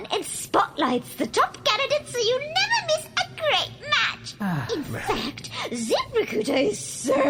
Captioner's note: Runff sighs in relief